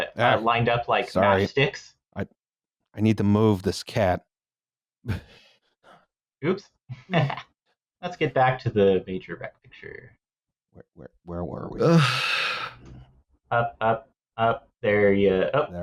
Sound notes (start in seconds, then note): 7.4 laughs; 11.8 long-suffering sigh